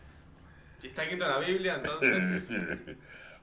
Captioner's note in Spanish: risas